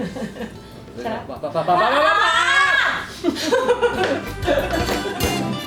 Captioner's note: screams and laughs